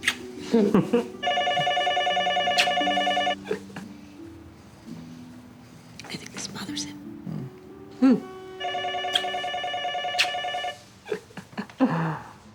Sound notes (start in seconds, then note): 0.4 both chuckling; 1.2 phone ringing; 8.6 phone ringing; 11.0 chuckling